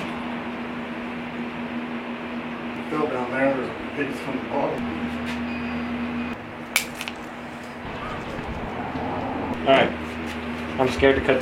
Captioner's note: cutting and chopping noises